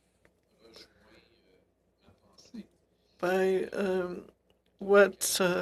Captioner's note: speaking French